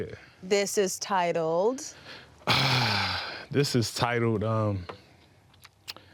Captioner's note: sighing